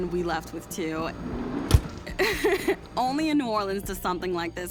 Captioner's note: laughs